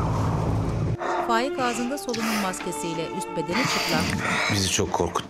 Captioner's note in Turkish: Hızlı soluma sesi